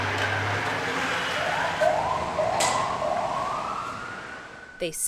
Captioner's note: firetruck accelerating; firetruck sirens blaring